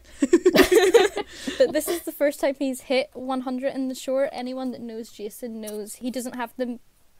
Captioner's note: hosts laugh